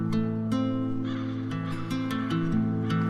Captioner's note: crow cawing